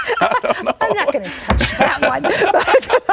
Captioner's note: laughter